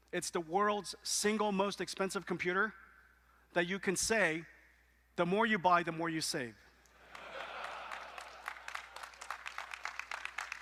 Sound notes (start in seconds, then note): 7.0 laughter; 7.0 applause